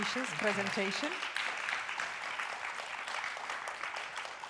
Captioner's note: applause